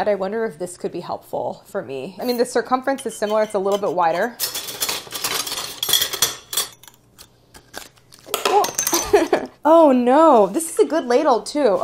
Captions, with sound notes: I wonder if this could be helpful for me. I mean, the circumference is similar. It's a little bit wider. [tools loudly clattering] Ooh! [softly chuckles] Oh, no, this is a good ladle too.